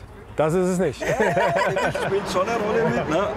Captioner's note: they laugh